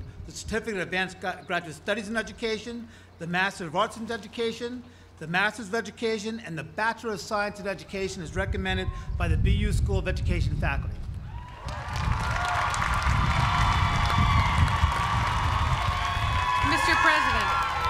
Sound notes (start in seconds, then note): 11.4 applause